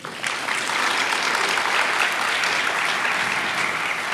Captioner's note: audience applauding